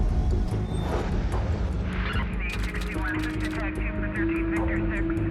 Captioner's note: police radio chatter